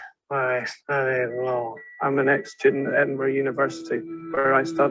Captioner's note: synthetic voice